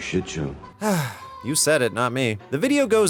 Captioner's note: sigh